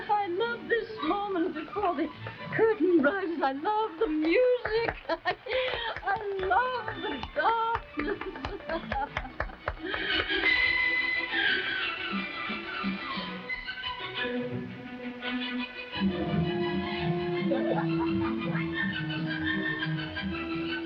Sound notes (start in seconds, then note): 0.0 Marquesa chuckling; 5.0 laughs; 7.4 laughing; 8.4 audience applauding; 10.6 dramatic orchestral music; 16.0 audience laughing